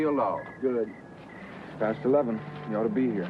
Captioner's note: pat